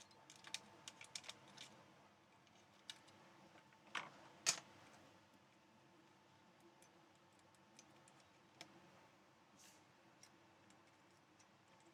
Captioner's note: silence